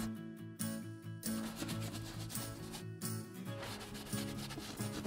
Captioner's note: rubbing